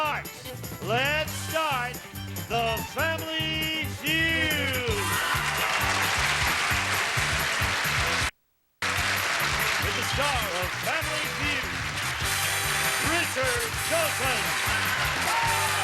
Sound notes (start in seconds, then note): 6.1 audience applauding